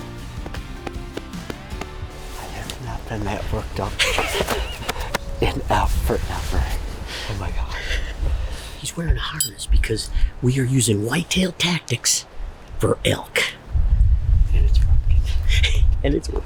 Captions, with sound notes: (laughing) (hands patting) - I have not been that worked up (laughs) in forever. Oh my gosh. - He's wearing a harness because we are using whitetail tactics for elk. - And it's working.